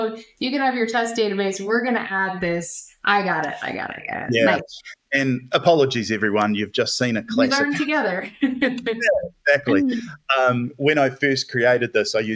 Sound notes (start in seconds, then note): 8.1 laughter